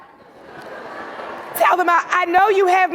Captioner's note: audience laughing